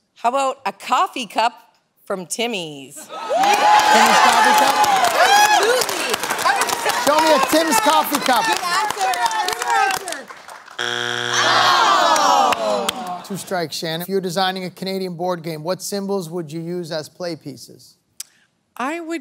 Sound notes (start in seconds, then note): 3.3 cheering; 8.9 shout encouragement; 10.8 buzzer sounds